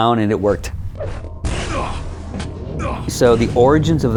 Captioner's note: groaning